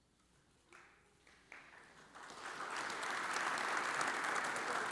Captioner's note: audience applauds